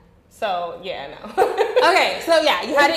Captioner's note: laughing